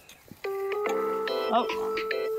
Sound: phone rings

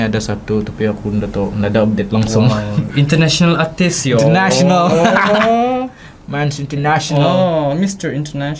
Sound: laughs

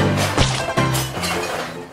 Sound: splat!!!

